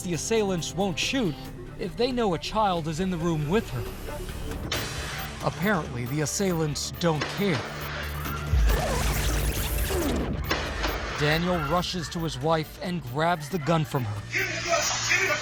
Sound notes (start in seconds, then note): 7.1 gunshots